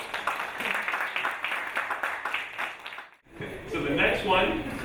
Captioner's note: audience applauding